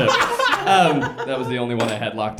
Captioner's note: laughs